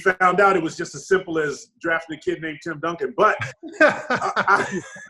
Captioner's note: laughs; Sean laughs